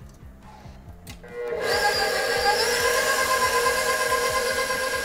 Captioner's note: mixer whirs